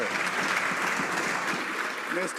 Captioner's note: some Applause